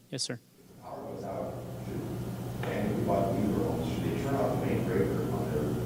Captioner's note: speaking off microphone